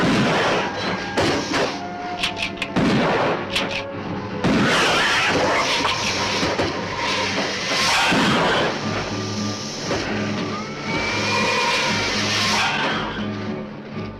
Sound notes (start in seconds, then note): 0.1 gun firing; 4.4 gun firing; 4.5 lizard hissing; 10.9 suspenseful music